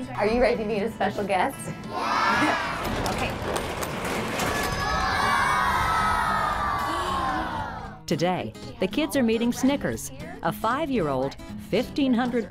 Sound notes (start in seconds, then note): 2.3 door opened; 4.0 kids cheer